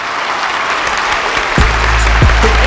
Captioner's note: All clapping